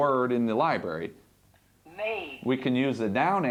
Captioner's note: computer voice